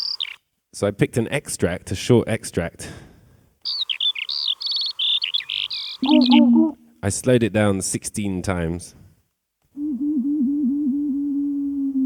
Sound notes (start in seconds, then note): 3.6 birdsong; 9.3 slow bird song